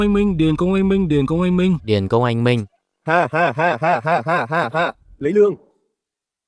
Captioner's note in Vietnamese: tiếng cười